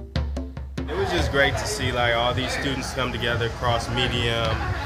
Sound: man's voice

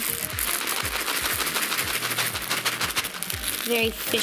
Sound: beads clattering

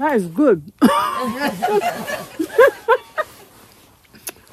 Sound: laughter

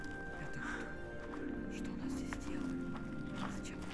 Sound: children’s whisper

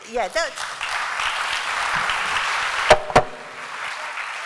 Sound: applause

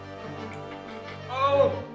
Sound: cheeky chuckle

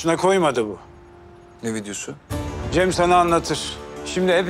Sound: lightning

